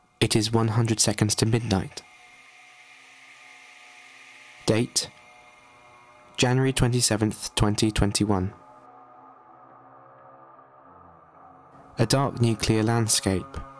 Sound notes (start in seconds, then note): 1.0 hissing sound fades in; 12.7 brass-like drone sound